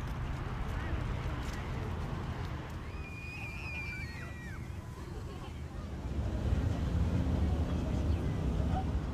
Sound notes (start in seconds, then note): 3.2 people chattering